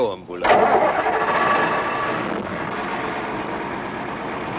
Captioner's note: engine starts